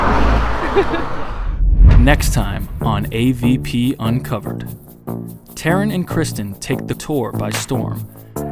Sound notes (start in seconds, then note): 0.4 laughs; 4.5 rising music